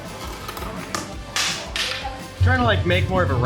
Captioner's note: marble clatters